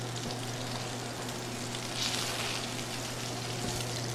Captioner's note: meat sizzling